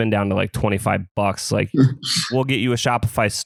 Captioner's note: laughs